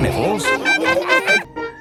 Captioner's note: laughing